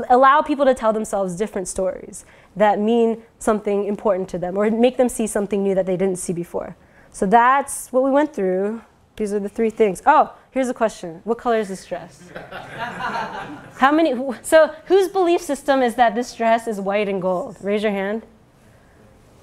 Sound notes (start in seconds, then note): 12.2 laugh